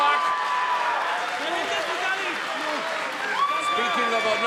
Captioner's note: crowd cheering